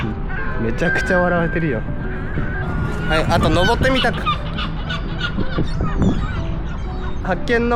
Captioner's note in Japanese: 笑い